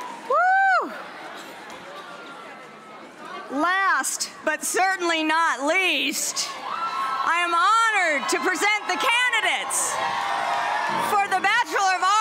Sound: cheers and applause

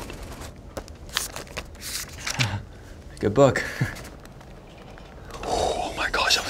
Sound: paper rustling; chuckles

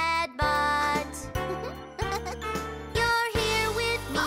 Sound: chuckles

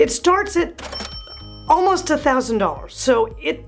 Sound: bell rings

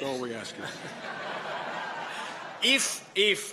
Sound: laughter

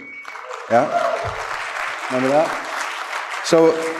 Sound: applause, cheers

